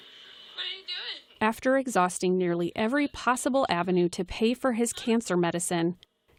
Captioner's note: voice-over